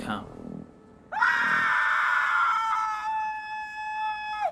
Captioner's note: screams